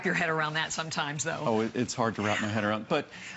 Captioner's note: laughter